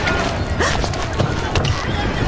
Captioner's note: gasps